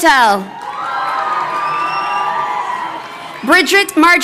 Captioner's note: crowd cheering